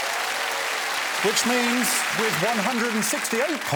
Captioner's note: applause